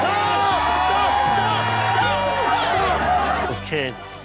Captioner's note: cheers